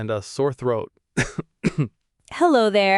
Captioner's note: cough, cough